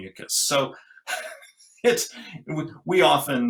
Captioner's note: laughs